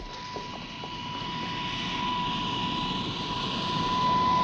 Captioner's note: plane whirring